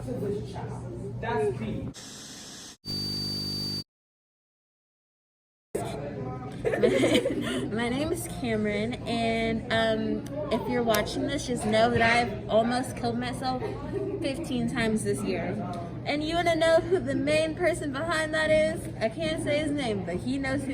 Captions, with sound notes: so it makes up for it. (indistinct background chatter) (static hissing) (chuckling) My name's Camryn and, um, if you're watching this, just know that I've almost killed myself 15 times this year. And you wanna know who the main person behind that is?